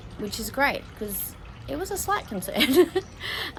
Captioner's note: chuckles nervously